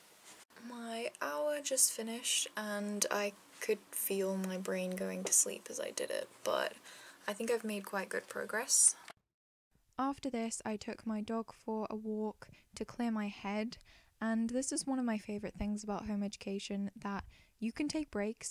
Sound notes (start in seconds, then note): 9.5 voiceover